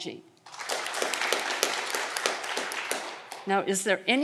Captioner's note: audience clapping